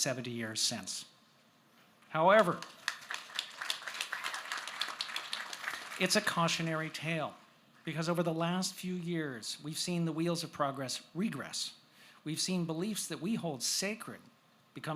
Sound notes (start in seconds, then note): 4.9 applause